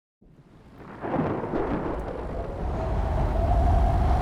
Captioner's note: thunder strikes